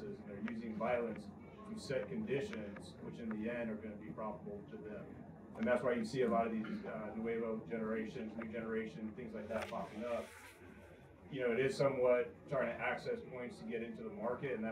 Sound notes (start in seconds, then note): 7.4 Spanish